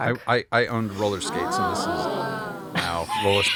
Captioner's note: oooh